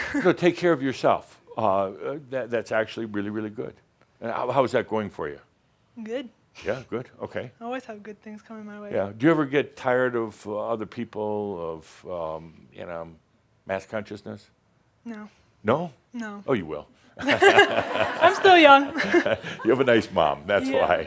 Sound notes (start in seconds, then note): 17.2 laughter; 18.8 she chuckles